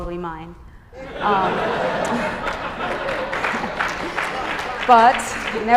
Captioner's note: laughter, applause